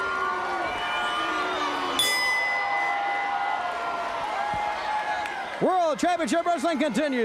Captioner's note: bell ringing